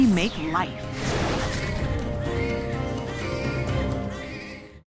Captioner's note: babies crying